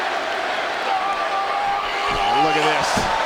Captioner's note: Henry screaming